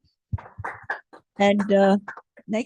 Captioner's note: applause